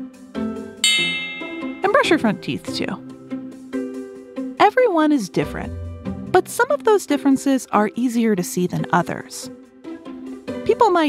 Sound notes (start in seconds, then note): 0.8 switch bell